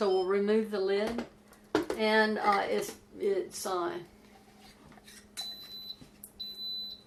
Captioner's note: beeping